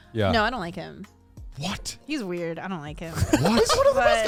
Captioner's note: laughs